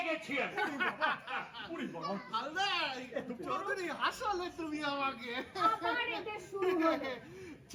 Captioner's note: laughing